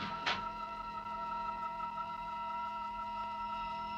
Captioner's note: door creaking; door clicks